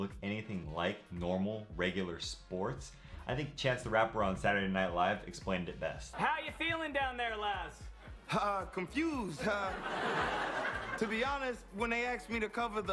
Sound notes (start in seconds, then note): 9.4 audience laughs